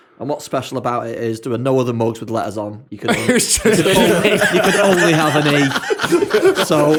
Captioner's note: laughter